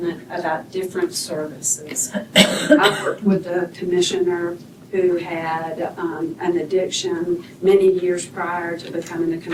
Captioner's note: clears throat